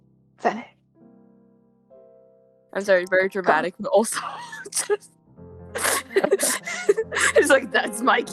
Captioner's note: laughing